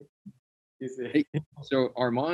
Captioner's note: chuckles